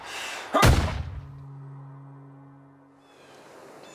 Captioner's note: gunshot